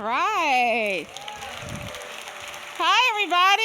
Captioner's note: audience applauding